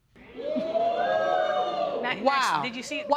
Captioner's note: audience react